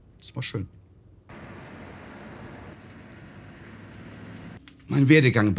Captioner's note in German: Originalton: Fahrgeräusche